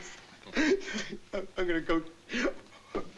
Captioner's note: sobs